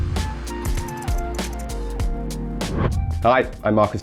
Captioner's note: gentle music; key board clacking